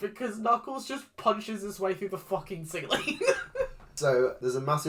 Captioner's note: laughs